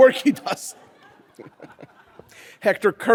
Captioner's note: audience laughs